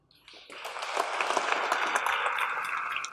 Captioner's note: applause